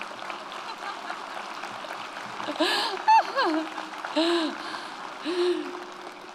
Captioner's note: audience applauds; laughs